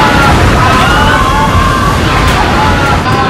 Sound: large waves crashing

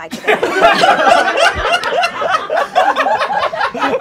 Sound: laughing

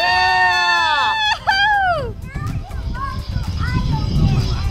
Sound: mom cheering

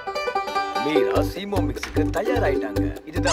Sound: voiceover

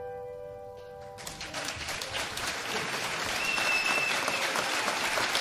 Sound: audience applauds

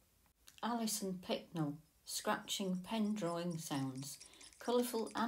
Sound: scratching pen drawing sounds

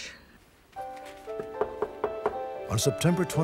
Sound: knocking

